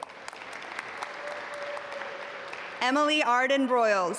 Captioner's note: audience applaud